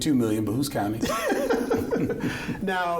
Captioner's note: chuckling